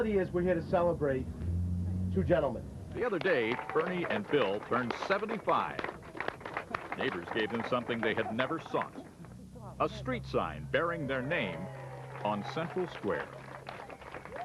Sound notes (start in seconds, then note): 3.0 clapping; 12.0 clapping and cheering